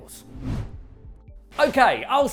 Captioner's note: transition whooshing